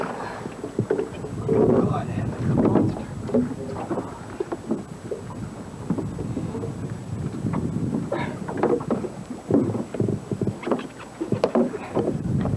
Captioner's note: water sounds